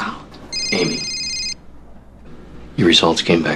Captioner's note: cellphone ringing